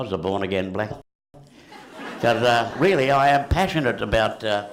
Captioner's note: laughter